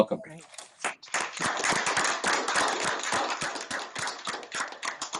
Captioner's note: applause